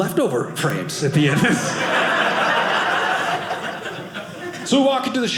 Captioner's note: audience laughing